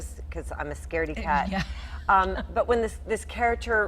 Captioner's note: laughing